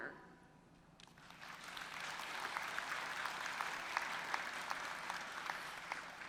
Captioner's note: applause